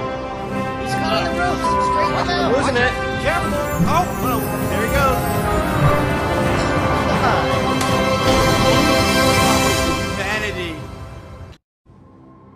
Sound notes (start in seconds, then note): 9.1 crash